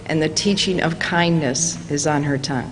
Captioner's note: none